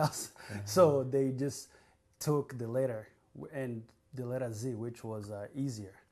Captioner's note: laughs